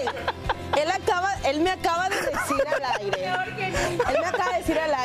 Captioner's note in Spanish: risas